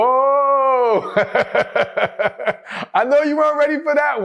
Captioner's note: laughs